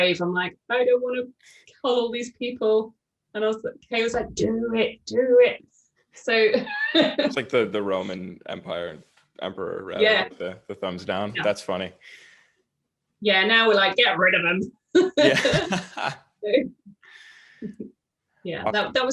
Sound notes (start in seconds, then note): 6.5 giggle; 15.0 laughing